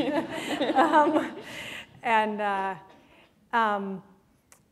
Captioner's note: laughter